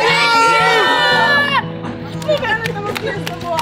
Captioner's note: overlapping chatter